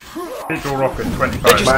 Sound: sigh

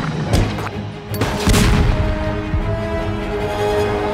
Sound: explosion

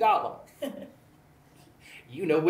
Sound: laughs

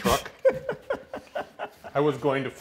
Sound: laughs

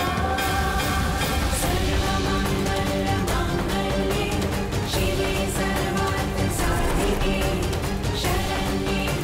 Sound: chants

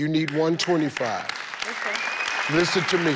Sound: audience clapping and cheering

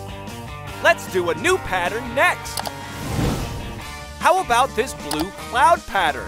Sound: none

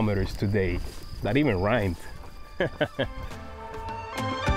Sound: laugh

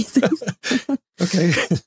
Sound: laughing

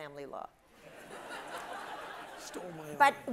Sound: audience laughs

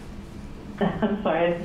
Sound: laughs

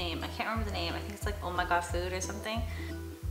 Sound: speaks foreign language

